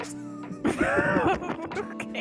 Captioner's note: laughter